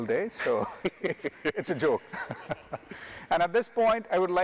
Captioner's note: chuckles